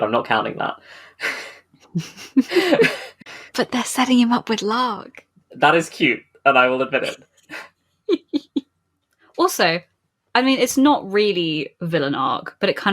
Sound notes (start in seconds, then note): 1.9 laughing; 1.9 laughs; 6.6 laughs